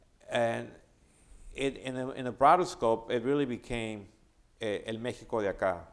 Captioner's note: speaking spanish